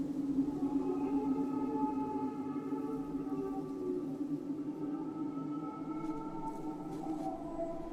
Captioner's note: spectral voices wail